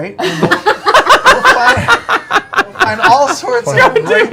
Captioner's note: laughing